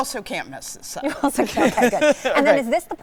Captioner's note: laughing